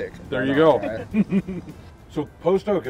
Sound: laughing

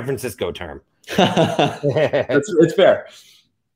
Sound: both laughs

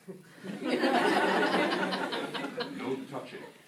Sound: laughter

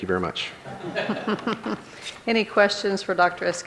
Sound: audience laughs

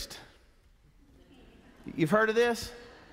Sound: congregation chuckles

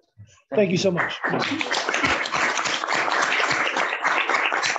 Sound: applause

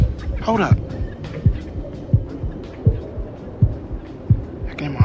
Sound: heart beats

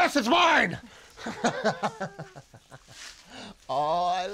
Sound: laughs

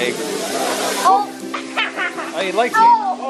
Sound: laughs

